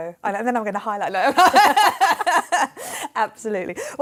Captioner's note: laughing